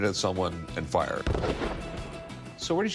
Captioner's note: gunshot